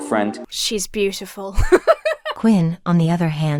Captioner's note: laughs